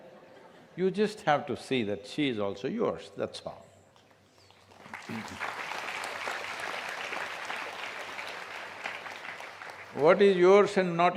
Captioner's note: applause